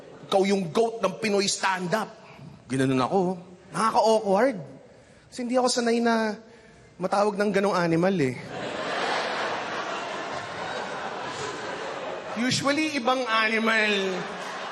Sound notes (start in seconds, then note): 8.4 laughter